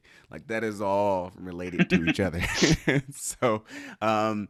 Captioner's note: chuckles